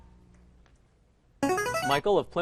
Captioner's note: ringer